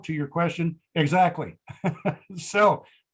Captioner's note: laughing